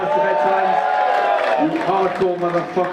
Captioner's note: audience cheer